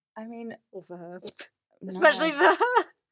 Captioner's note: laughs